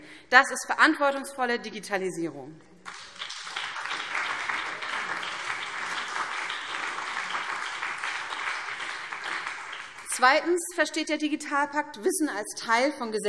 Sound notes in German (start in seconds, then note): 2.8 Beifall BÜNDNIS 90/DIE GRÜNEN und vereinzelt CDU